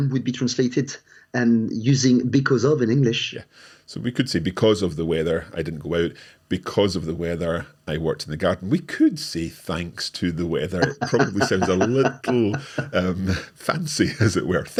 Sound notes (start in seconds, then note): 10.6 chuckles